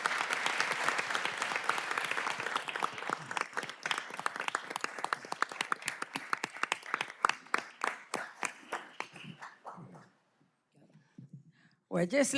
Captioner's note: applause